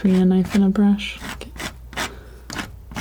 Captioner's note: scratching